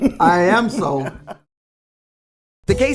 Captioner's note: laughs